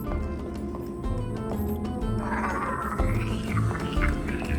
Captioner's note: electronic sounds from spaceship